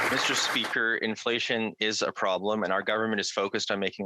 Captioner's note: some Applause